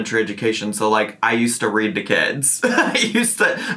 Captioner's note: laughing